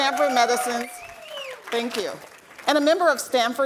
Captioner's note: audience clapping